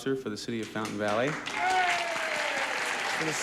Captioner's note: audience cheers